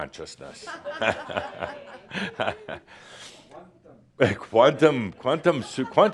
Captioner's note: laughter and someone says “Quantum”